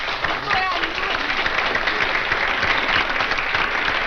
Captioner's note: audience applauds